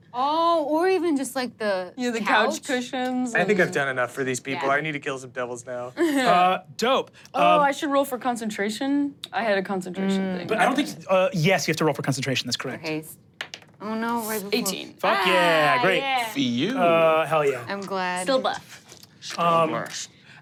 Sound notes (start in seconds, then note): 13.4 dice rolling